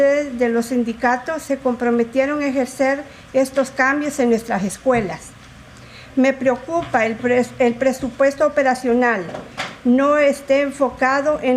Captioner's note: speaking in spanish